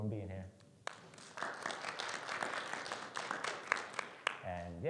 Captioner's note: audience clapping